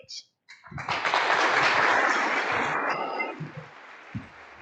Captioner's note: crowd applauding